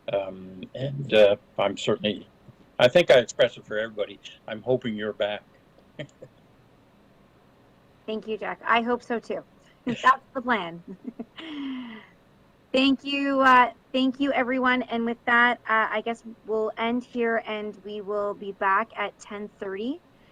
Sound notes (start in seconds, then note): 6.0 laughing; 10.8 laughing